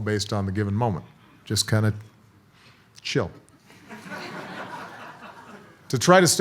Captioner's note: audience laughs